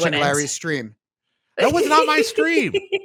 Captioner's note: laughs